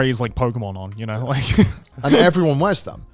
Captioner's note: laughing